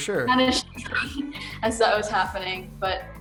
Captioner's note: laughs